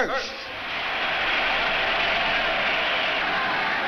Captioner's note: crowd cheers